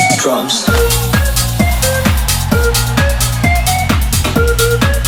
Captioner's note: vapor hisses